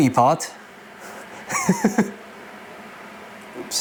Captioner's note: chuckles